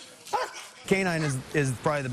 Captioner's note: bark bark